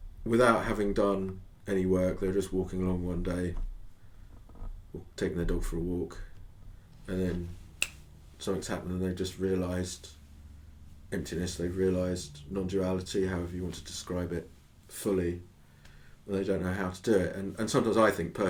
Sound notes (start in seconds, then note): 7.7 finger-snap!